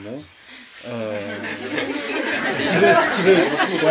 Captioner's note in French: rires et applaudissements